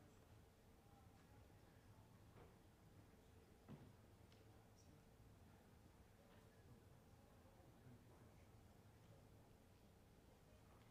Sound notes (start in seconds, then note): none